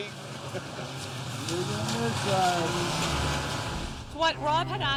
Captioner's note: indistinct chattering